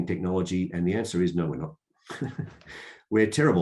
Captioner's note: laughs